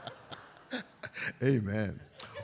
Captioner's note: audience laughs; laughing